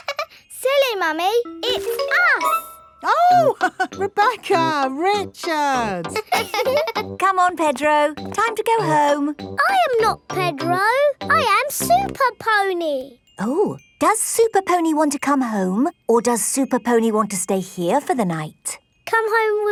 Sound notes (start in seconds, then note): 0.2 laughs; 5.9 both laughing; 6.0 chuckles